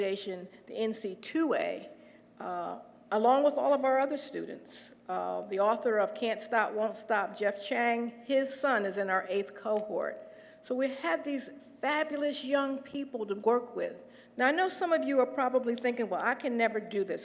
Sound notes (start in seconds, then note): none